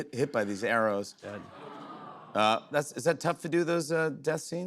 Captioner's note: audience groans